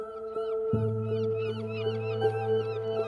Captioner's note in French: cris des mouettes